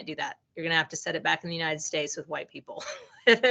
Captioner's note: laughing